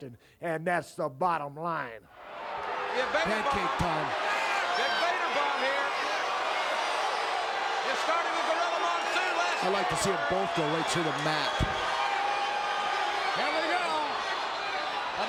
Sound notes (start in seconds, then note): 11.8 crowd yelling